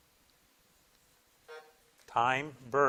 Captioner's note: buzzer blips